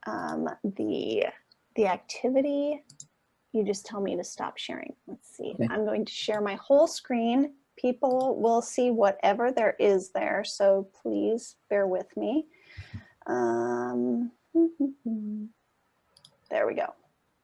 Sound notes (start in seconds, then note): 14.6 hums